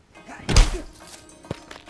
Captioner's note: thud. Crash